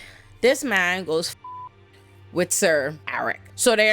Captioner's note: beep